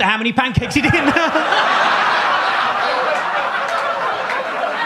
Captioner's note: audience laughs